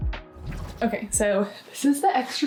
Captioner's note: graphic whooshing